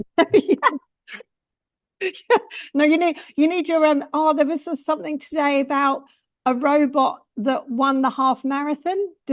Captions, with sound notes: [laughs] Yes. No, you need your own... Ah, there was something today about a robot that won the half-marathon,